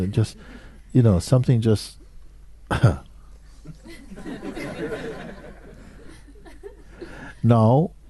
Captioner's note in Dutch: gelach